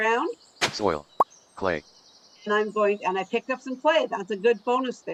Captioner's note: pop